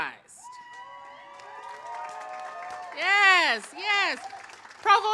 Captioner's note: audience cheers